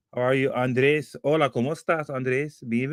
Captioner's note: spanish